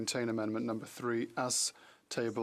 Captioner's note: speaking French